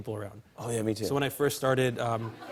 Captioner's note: laughter